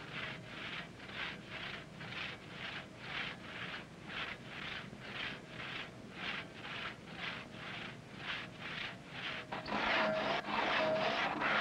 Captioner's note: loud sawing